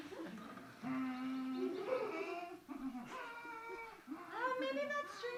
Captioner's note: Star Wars humming returns